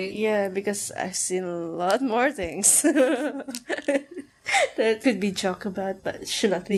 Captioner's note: gigglegiggle